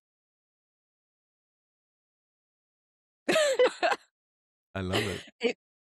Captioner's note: laughing